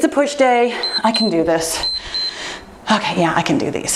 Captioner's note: timer beeps